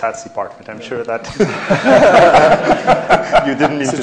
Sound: laughter

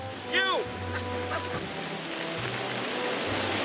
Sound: laughter

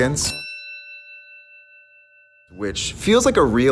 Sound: ding

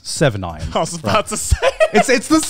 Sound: laughing

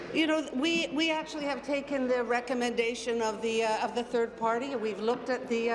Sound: applause

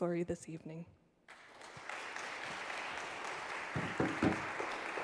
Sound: audience clapping

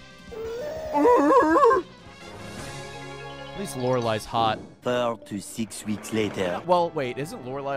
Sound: imitates Dewgong's cry

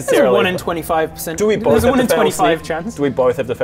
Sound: evil laugh

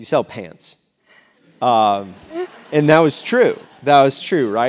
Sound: laugh

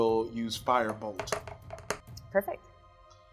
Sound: dice thudding

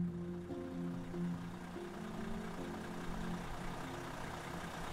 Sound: engine running

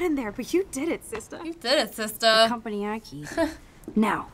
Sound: chuckles

